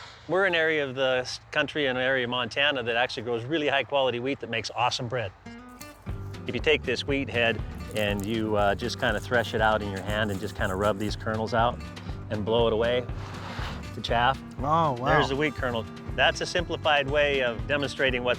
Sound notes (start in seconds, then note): 13.2 blowing